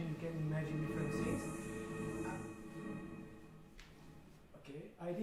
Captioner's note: high pitched humming